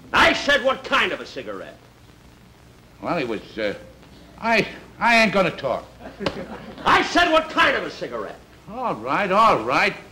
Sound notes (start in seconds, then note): 6.2 smack